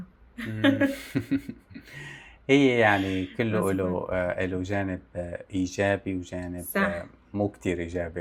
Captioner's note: laughs